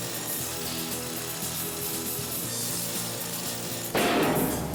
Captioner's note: chains rattle